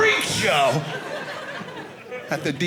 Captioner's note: audience laughing